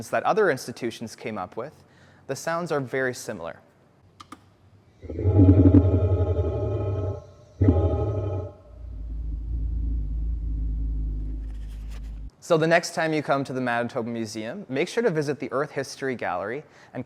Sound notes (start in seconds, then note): 4.0 sound of button clicking followed by low, gravely rumble